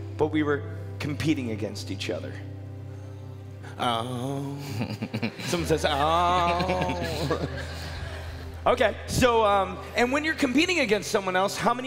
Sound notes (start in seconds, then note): 4.6 laughing